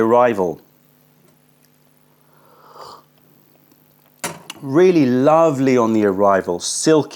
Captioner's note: sips tea